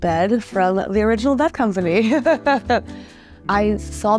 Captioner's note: laughs